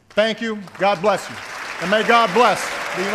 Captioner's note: applause